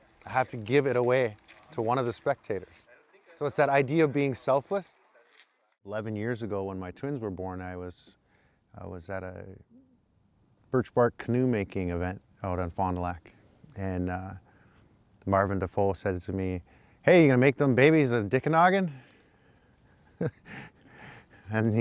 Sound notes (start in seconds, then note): 18.3 foreign language; 19.9 chuckles